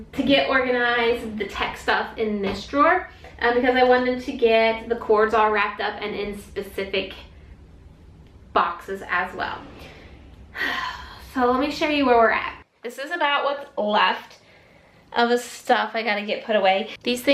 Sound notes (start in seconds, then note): 10.5 sighs